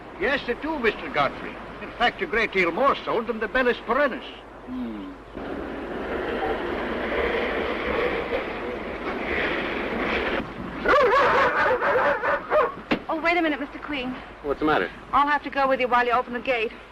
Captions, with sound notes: Yes, I do, Mr. Godfrey. In fact, a great deal more so than the Bellis perennis. Hmm. [DOGS BARKING] Oh, wait a minute, Mr. Queen. - What's the matter? I'll have to go with you while you open the gate.